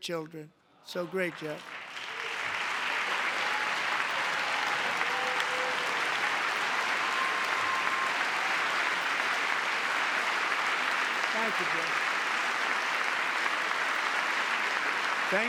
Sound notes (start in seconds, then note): 11.4 applause; 11.4 cheering